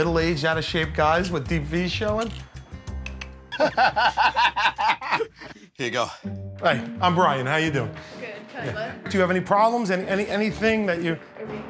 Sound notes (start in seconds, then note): 3.0 clicks tongue; 3.5 laughter